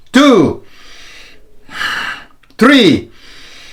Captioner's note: breaths deeply